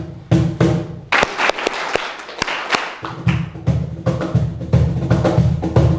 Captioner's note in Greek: χειροκρότημα